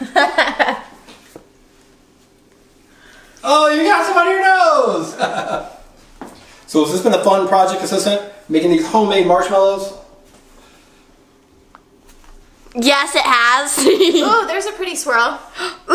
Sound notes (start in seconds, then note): 0.0 woman laughing; 5.4 laughing; 13.8 laughing